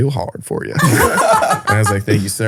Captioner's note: all laughing